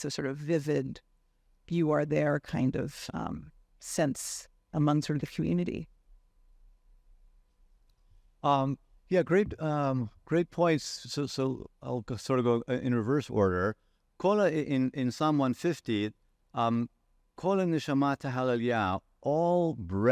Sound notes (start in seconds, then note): 15.3 speaking in foreign language